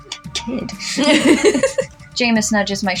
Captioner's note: both Laugh